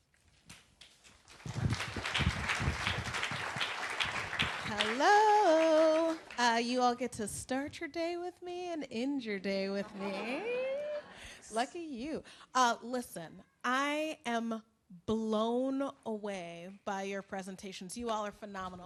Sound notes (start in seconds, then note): 4.8 applause; 9.8 laughter